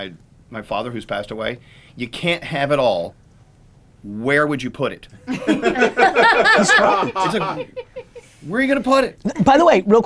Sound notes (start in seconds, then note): 5.3 laughing